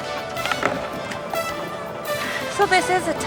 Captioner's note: laughter